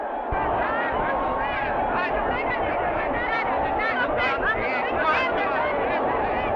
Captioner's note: dancers shouting in Spanish